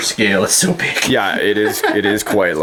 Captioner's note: laughing